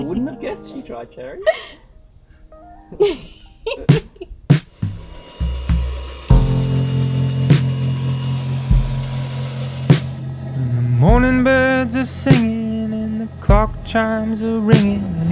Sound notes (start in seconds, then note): 0.0 chuckles; 2.9 laughs; 4.7 helicopter blades whir; 4.8 upbeat music